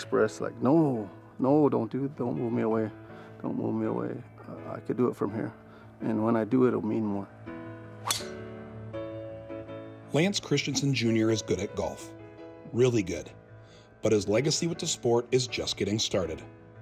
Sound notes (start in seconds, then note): 8.0 club whistling